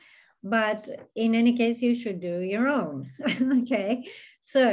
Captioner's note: chuckles